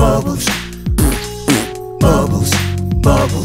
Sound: raspberry mouth fart x2

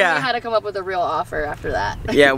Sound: laughing

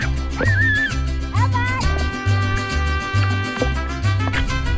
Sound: squeals

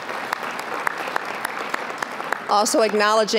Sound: applause

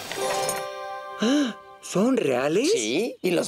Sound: gasps

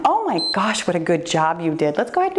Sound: timer beeps

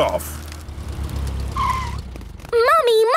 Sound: tires screeching

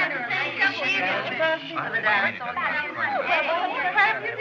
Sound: chattering Continues

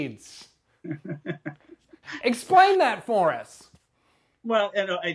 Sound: laughing

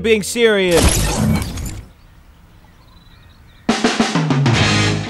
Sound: computer crashing; upbeat rock music

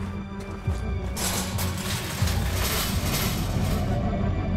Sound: fence rattling

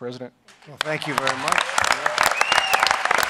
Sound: applause

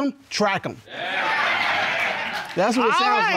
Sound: audience exclaims

